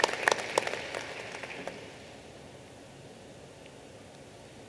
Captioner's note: applause